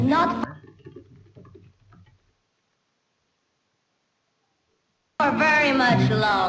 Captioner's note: typing noises